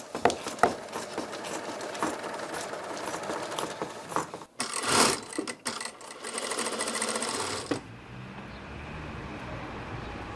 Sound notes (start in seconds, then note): 4.5 clattering; 8.3 quiet traffic noise